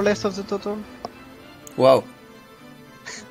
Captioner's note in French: haha